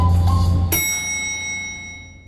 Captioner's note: bell dings